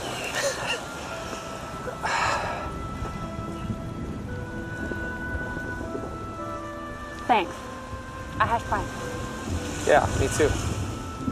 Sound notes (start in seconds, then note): 0.2 chuckle; 1.9 sigh of discomfort; 3.4 rumbling of thunder